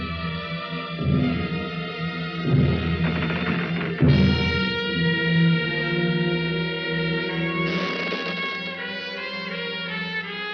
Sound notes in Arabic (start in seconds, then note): 7.4 صرير النافذة